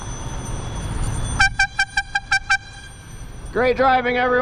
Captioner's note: airhorn